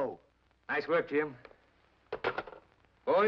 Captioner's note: phone sets down